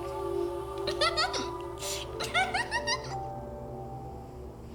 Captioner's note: Laurie giggles